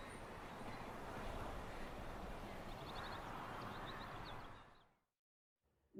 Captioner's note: soft Nature Sounds